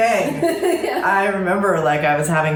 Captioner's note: laughter